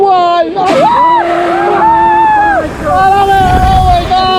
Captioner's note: screaming